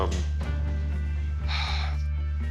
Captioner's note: sighs